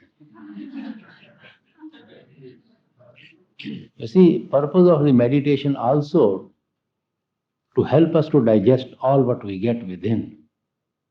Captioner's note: laughter